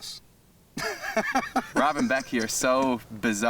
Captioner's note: Robert laughs